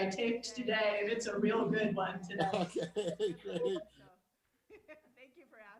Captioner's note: laughs